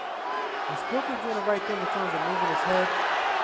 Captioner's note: cheer